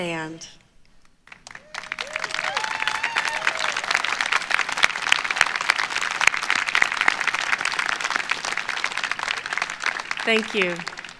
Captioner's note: applause